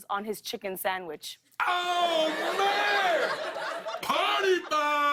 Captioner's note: laughter